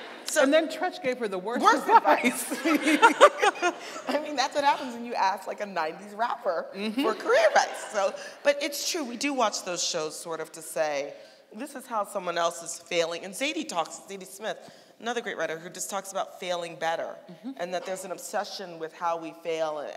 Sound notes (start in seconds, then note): 2.1 laughing